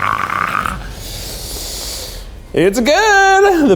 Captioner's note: inhales sharply